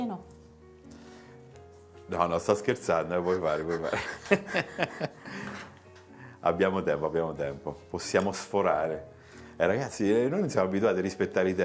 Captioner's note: Risate